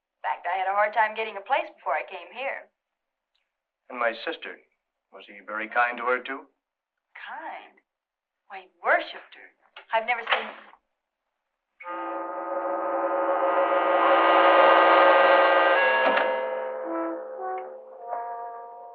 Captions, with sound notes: In fact, I had a hard time getting a place before I came here. My sister, was he very kind to her, too? Kind? Well, he worshiped her. I've never seen-- [door opens] [dramatic orchestral sting]